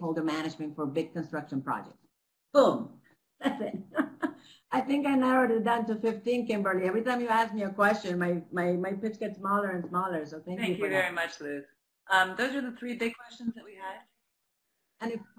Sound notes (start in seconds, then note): 3.4 laughing